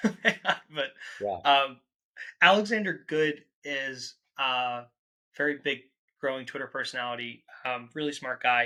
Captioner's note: laughs